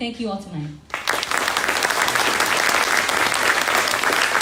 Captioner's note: crowd applauding